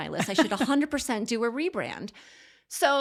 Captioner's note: laughs